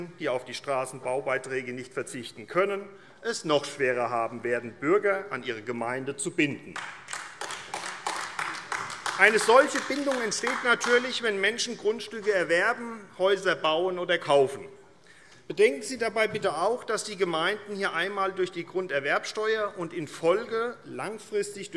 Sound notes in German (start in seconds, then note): 6.7 Beifall AfD